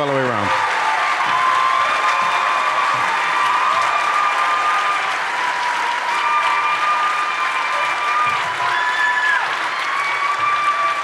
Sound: applause and cheering continue

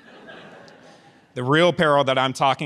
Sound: audience chuckles

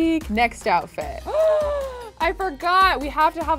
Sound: gasping

